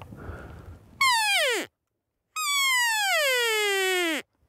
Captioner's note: elk call